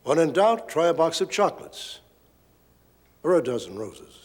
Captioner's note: none